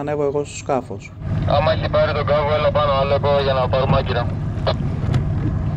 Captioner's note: captain on the radio